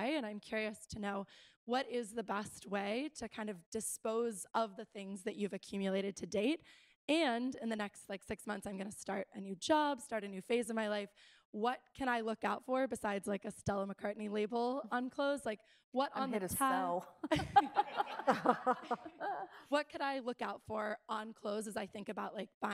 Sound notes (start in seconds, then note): 17.3 audience chuckles